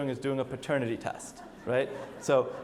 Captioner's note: audience laughs